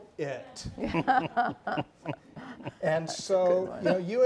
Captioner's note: panelists laughing